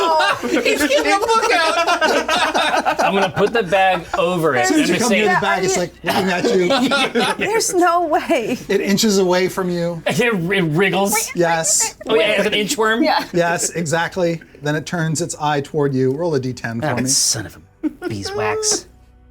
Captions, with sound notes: - He's getting the book out. (everyone laughing) - I'm gonna put the bag over it. - When it comes to the bag it's like looking at you. - There's no way. - It inches away from you. - It wriggles. - Yes. - An inchworm. - Yes, exactly. Then it turns its eye toward you. Roll a D10 for me. - That son of a beeswax.